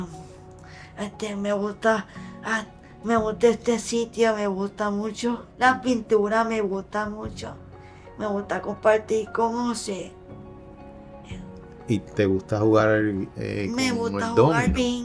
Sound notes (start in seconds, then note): 6.1 in Spanish